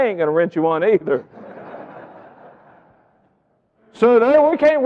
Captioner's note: audience laughing